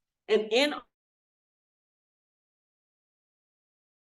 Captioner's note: audio cuts out